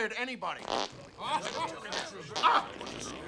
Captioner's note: farting sounds